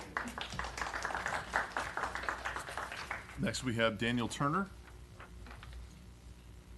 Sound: applause

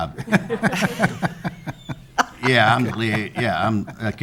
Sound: all laughing

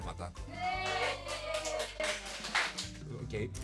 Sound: applause

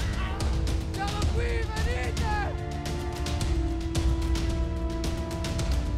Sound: shouting to the zombies

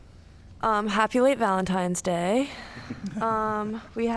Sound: laughter

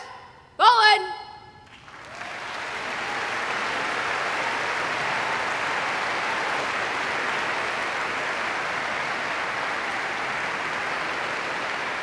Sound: applause

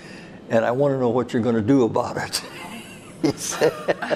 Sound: laughs

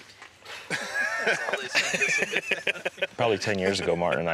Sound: laughing

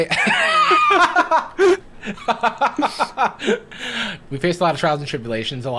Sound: both laughing

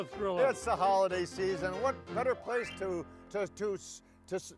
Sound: stuttering

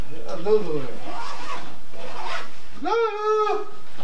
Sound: bag Zipper

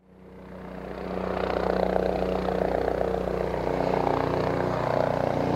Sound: helicopter sounds

